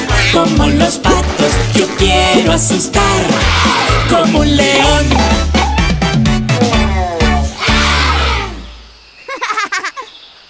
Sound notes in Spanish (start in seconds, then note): 1.0 Sonido de leon